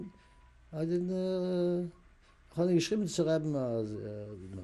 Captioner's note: yiddish speech